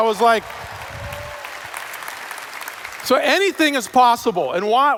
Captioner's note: cheers/Applause